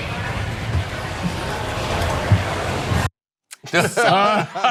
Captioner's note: laughter